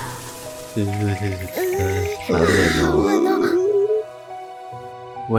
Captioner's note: shivering